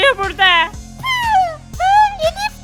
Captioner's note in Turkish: Tükürme sesi